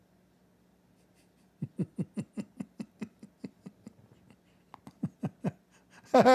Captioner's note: Ketawa